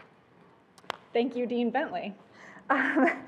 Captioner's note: claps